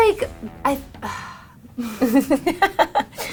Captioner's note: sighs; laughing